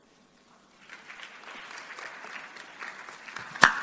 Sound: applause

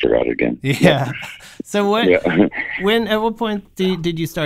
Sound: laughter

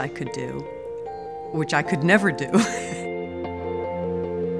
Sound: laughs

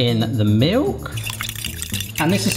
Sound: clanking

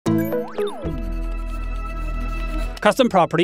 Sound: electronic intro chime

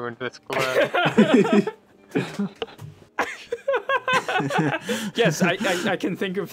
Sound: pained laughter

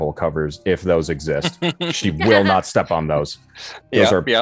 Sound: laughing

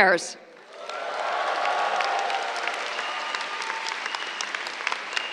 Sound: cheers, applause

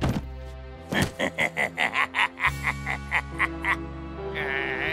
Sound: fizz laughs

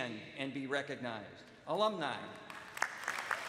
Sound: applause

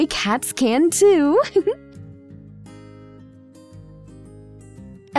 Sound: laughs softly

